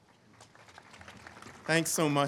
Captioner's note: all clapping